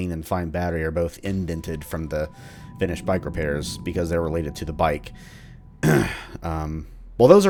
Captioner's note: clears throat